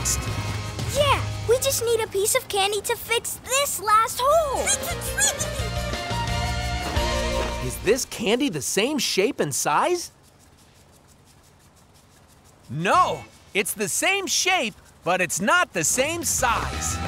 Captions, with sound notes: Yeah, we just need a piece of candy to fix this last hole. [bird tweeting] Is this candy the same shape and size? No, it's the same shape, but it's not the same size.